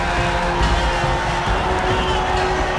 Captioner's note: growling